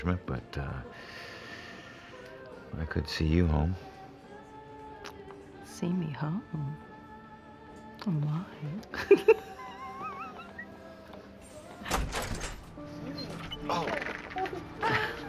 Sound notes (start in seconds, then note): 8.9 laughing